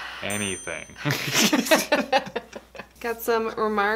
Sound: laughing

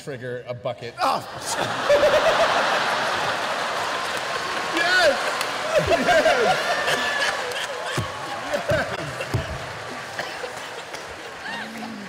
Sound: laughter

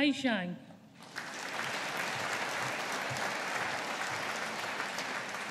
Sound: audience applauding

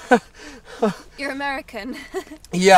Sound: tourist chuckles

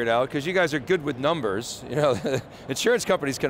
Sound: laughs

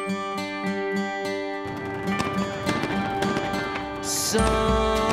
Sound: gunshots and explosions

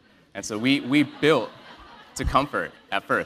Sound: laugh

